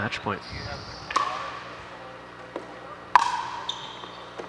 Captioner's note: ball bouncing